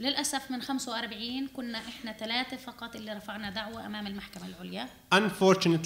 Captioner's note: speaking arabic